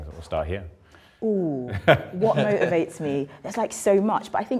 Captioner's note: group laughing